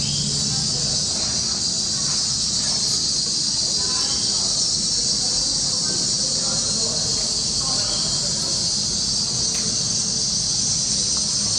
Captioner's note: Background: sound of birds. People in Palazzo Garden talking softly